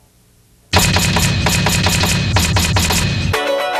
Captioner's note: letters banging; upbeat music